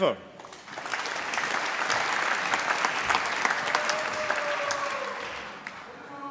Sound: applause

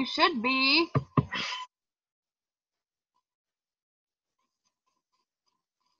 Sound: double taps computer

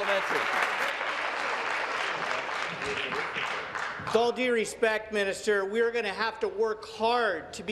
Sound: applause

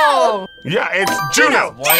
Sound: buzzer rings

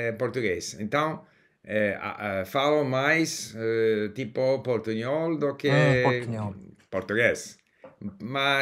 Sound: mixture of Spanish/Portuguese

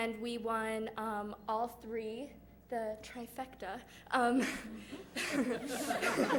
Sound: laughter

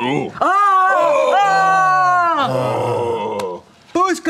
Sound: excited yelling

